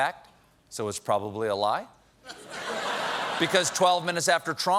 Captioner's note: laughter